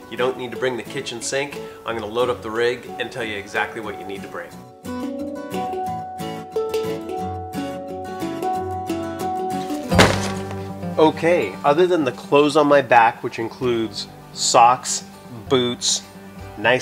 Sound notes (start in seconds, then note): 4.9 cheerful music; 9.8 thudding